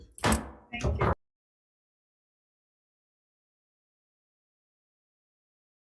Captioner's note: gavel banging